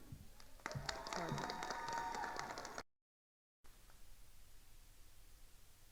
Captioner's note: attendees cheering and applauding